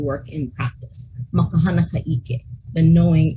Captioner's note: speaking in foreign language